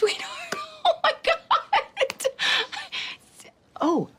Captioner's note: laughing